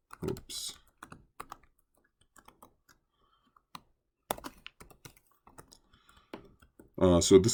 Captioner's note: typing